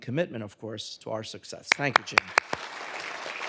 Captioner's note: clapping; audience applauding